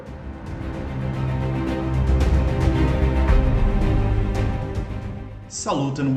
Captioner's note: engines revving, cars noises